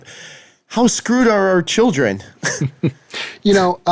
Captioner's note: laughing